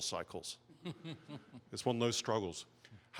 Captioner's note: chuckling